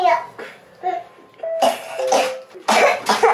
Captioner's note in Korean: 콜록 콜록